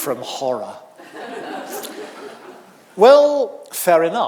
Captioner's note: audience laughing